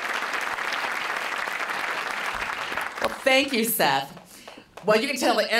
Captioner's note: applause